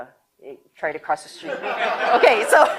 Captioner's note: audience laughter